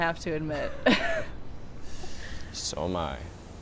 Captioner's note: both laughing